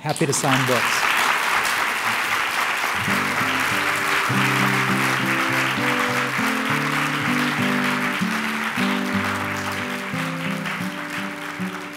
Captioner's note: applause and music